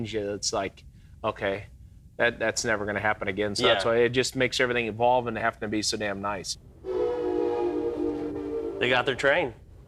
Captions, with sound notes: it's like okay, that's never gonna happen again. So that's why it just makes everything evolve and have to be so damn nice. (train white blowing) - They got their train.